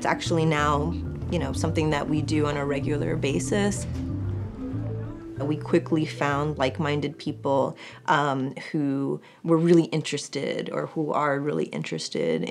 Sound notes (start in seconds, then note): none